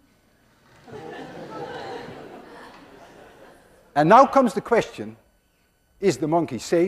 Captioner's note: class laughs